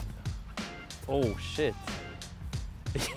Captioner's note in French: rire